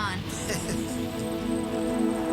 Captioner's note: laughs